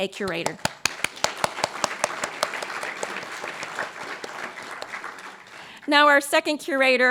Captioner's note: applause